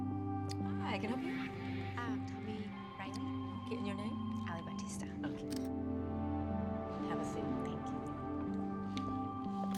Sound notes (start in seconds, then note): 5.4 camera shutter